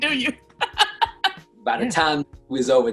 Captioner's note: laughs